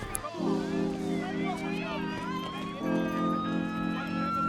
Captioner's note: mellow music; siren wailing; chatter